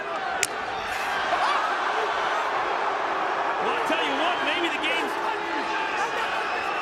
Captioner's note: applause